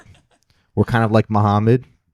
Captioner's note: laughing